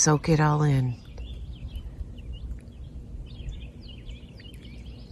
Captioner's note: birds chirping